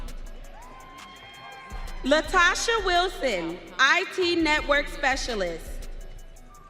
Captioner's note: audience cheering